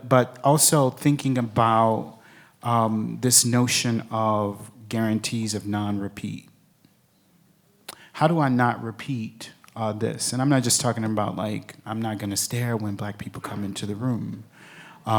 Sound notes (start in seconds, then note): none